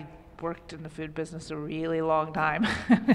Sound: laughter

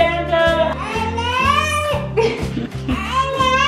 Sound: baby yelling; laughing

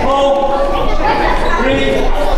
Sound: shouting

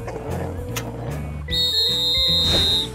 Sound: whistle blows

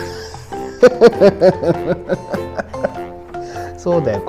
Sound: laughs

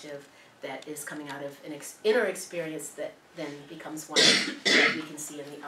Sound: cough

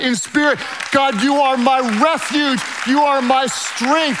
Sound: hands clapping loudly

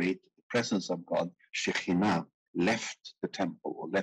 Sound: speaking in foreign language

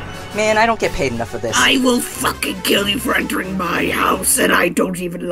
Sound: normal-pitched gravelly voice

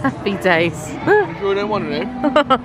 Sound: laughing

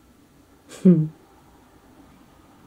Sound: gentle laugh

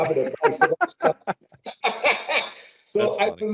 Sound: laughing

